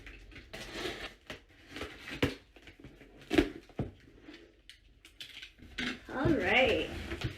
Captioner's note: shuffling and box noises